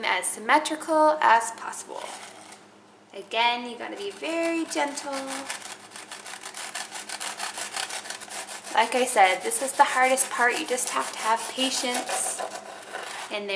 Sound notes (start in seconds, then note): 5.7 knife sawing